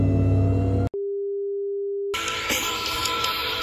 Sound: beep; rock music

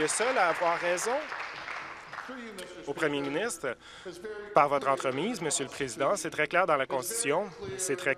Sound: applause

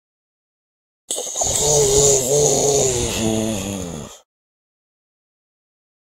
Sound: sound of zombie

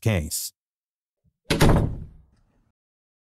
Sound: door closes

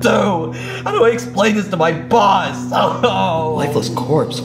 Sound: sobbing

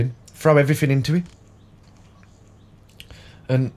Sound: silence

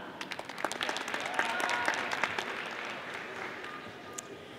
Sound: audience applauding

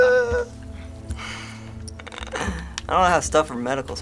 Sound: titters nervously; soft chuckle

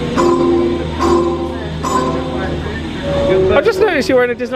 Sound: Skyliner pings

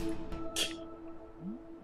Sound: scoffs

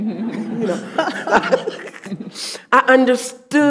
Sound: audience laughing

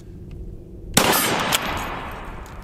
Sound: gun shot

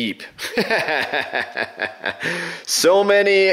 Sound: laughs

